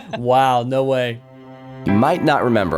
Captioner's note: soundbite of archived recording